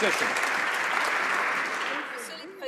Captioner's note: some Applause